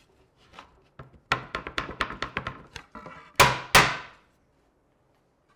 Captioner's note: woods smacking